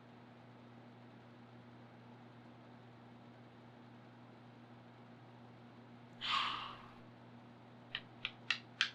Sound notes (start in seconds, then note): 6.2 sighs